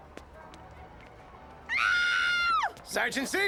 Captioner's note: woman screaming